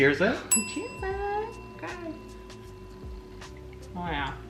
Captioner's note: bell dings loudly